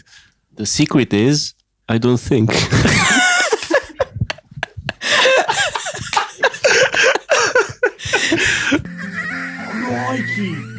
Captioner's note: laughter